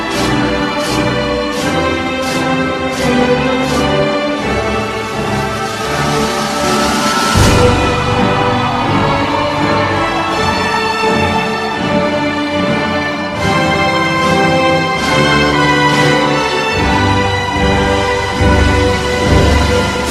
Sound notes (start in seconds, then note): 4.7 applause and cheering